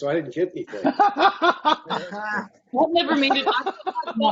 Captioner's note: laughter